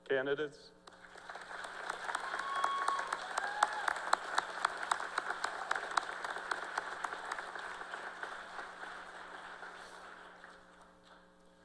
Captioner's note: cheers and applause